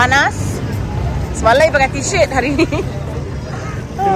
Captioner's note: laugh